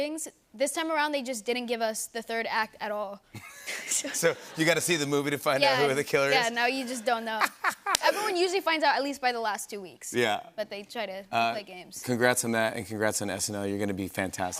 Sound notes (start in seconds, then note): 3.3 laughter; 6.8 laughs